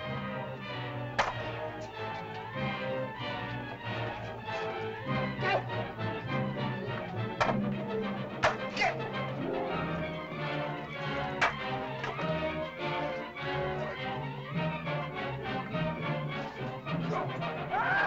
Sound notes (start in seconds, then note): 1.1 spears bang; 1.1 suspenseful music; 17.6 caveman screams; 17.8 suspenseful music